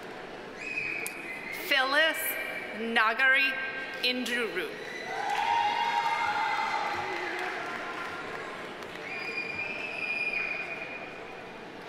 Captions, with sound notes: Phyllis Naggai Njiru. (audience applauding) (audience cheering)